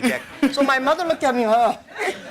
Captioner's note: laughter